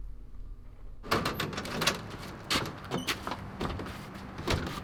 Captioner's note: door shuffles